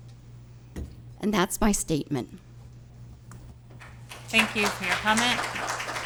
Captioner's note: applause